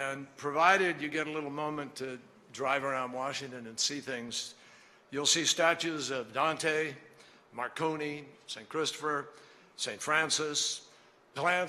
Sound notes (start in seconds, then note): none